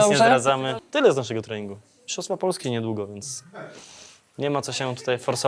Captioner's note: snorts